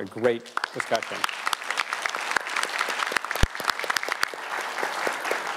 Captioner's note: audience applauds